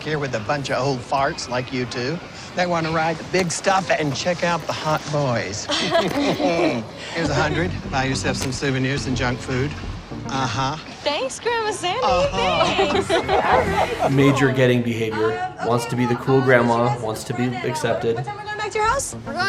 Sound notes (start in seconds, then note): 5.6 laughs